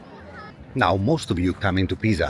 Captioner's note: Crowd Chattering